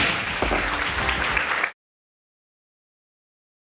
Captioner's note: audience applauding